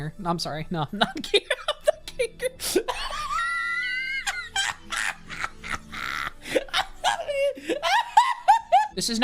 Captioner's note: laughing